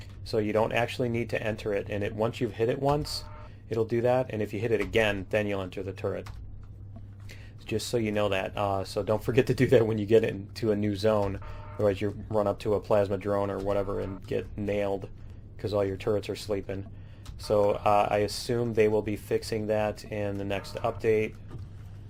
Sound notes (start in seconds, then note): none